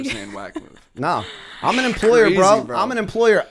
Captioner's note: chuckle